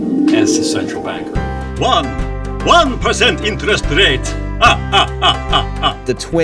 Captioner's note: laughing